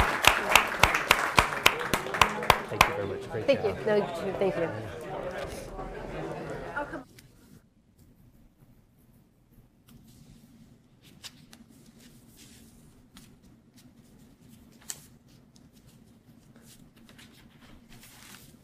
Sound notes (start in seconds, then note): 5.0 applause